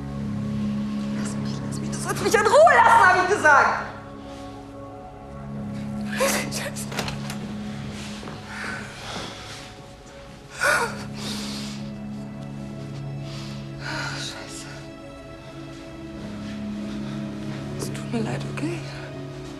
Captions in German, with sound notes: * düster Klänge * Lass mich, lass mich. Du sollst mich in Ruhe lassen, hab ich gesagt! (schluchzend) Scheiße. * Türöffnen * (seufzend) Oh, Scheiße. Es tut mir leid, okay?